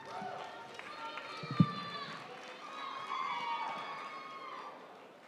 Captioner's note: audience cheering